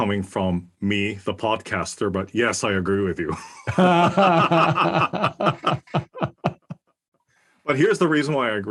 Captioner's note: laugh